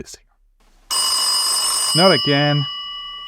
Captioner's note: phone rings